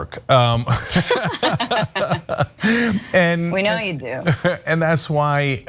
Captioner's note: laugh